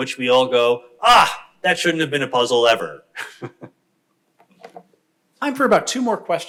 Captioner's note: chuckles